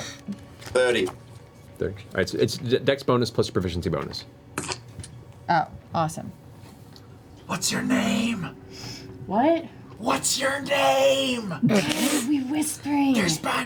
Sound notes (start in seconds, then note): 6.8 whispers